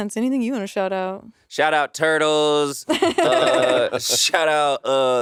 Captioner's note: laughing